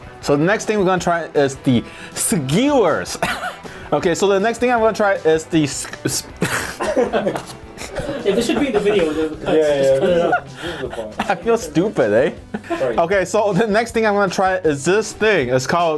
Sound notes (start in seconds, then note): 3.2 laughs; 6.4 all laugh